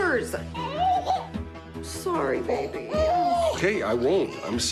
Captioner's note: baby fusses